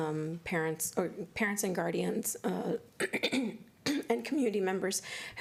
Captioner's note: clears throat